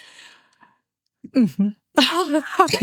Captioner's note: laughing